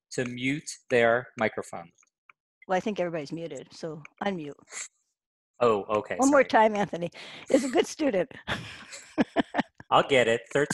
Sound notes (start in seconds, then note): 8.6 laughs